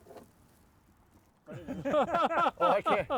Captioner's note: all laughing